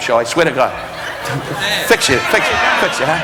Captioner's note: audience laughing